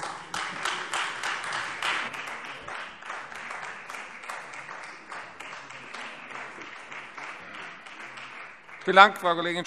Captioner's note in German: Beifall Freie Demokraten und vereinzelt AfD